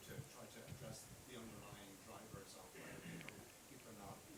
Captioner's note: faintly speaking